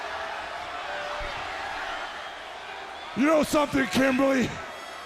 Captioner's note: crowd chatter